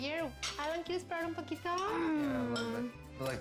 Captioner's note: speaking spanish